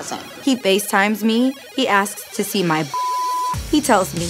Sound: beep sound

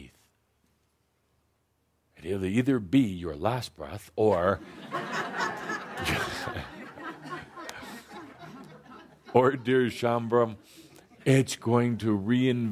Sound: laughter

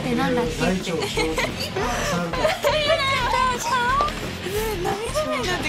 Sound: laugh

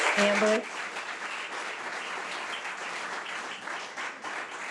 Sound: audience applause

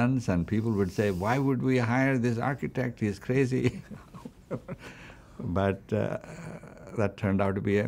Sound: laughs

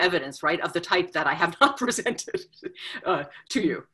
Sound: laughs

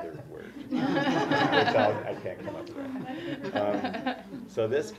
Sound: laugh

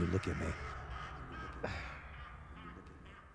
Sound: distant cackling

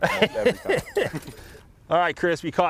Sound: laughs

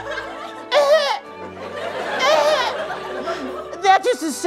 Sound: affected coughing

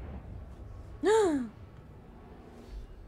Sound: gasps

